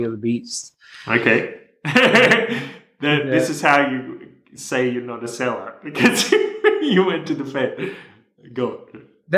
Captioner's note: laughter